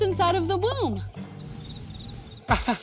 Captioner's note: whirring; crickets chirping; laughs sarcastically